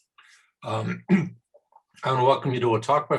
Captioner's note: clears throat